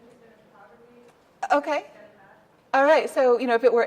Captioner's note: softly talks off mic